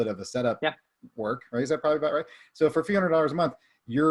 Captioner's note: murmurs